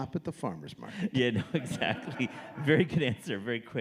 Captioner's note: audience laughing